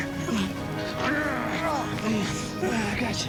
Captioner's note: grunts